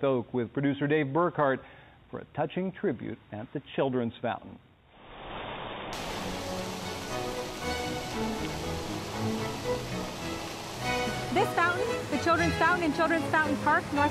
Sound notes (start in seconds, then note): 5.3 water rushing; 6.2 lively orchestral music